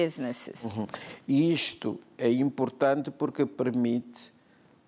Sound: speaking portuguese

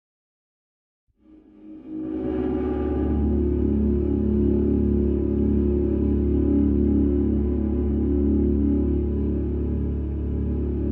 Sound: sound of drone

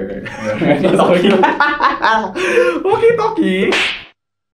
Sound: laughs

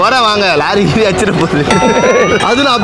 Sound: laughs

